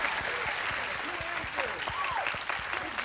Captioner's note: applause